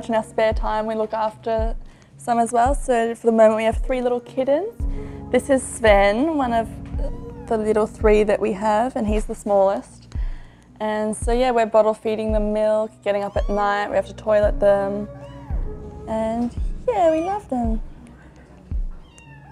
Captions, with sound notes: in our spare time we look after some as well, so for the moment we have three little kittens. This is Sven, one of-- - (meowing) the little three that we have and he's the smallest. We're bottle feeding them milk, getting up at night, - (meowing) we have to toilet them. - (meowing) and yeah we love them. - (meowing)